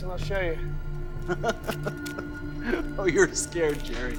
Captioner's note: Max laughs